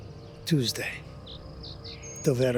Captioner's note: speaking in Italian